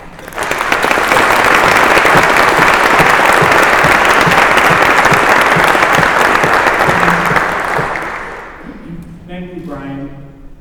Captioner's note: applause